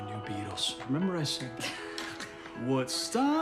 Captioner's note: laughs